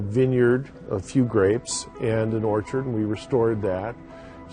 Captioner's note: voiceover